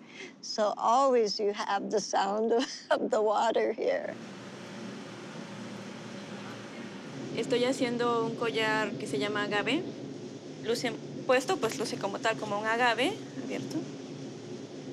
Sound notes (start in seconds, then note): 4.2 water rushing; 6.2 speaking spanish